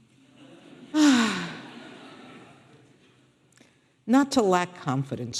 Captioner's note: audience laughing; Sonia sighing